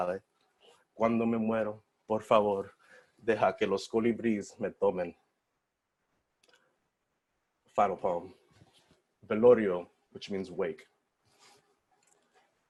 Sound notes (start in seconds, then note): 9.3 foreign language